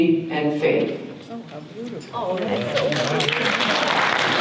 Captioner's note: audience applause